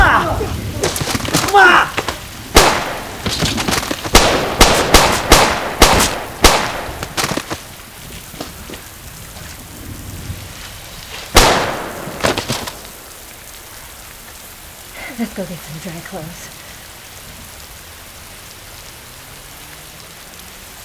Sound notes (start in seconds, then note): 0.0 gun clicking and blasting; 0.0 Ramsay grunting; 0.0 elbow bashing; 4.8 body thudding; 4.8 gun blasting; 18.0 rain pattering